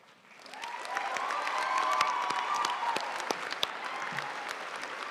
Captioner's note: audience cheering and applauding